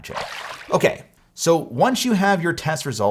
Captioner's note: water splashes